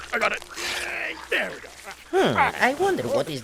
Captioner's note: more creepy moans in the background